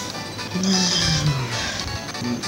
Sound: heavy sigh

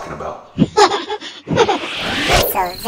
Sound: laughs

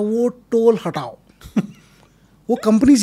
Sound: laughs

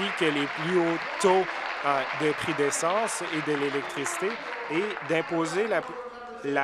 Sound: applause

